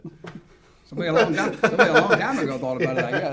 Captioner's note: laughs